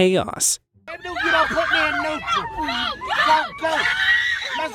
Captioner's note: all screaming